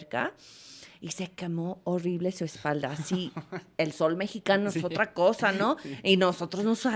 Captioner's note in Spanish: risas